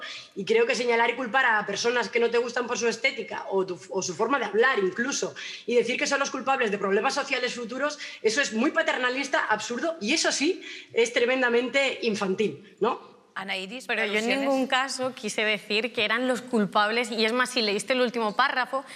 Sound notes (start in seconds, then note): none